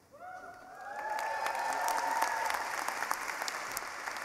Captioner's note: cheering